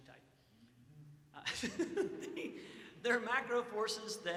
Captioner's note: laughs